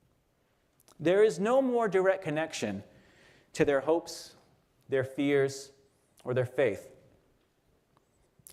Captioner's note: none